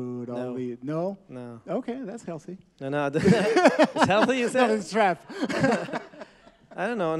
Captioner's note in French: Rires